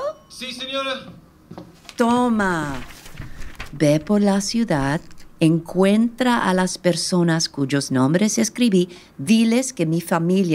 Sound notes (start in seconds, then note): 1.4 approaching footsteps